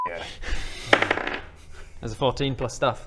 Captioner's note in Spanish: tirada de dados